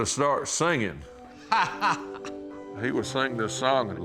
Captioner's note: laughs